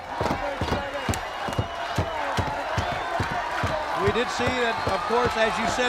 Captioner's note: crowd chatter